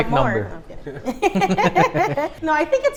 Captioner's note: laughs